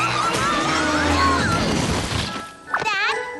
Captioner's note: crash